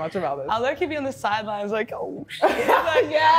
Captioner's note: laughs